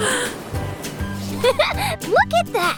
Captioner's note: chuckles